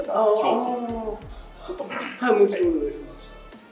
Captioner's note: laugh